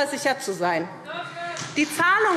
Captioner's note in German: Beifall SPD und vereinzelt DIE LINKE